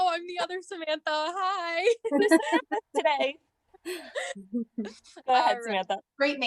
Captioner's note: laughter